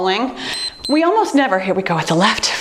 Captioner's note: timer beeps